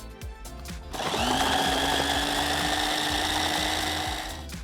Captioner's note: blender whirring